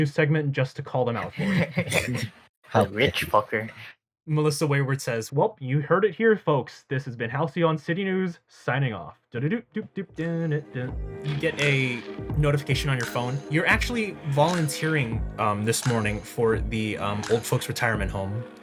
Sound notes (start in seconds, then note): 1.1 laughs